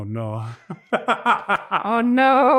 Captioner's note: laughs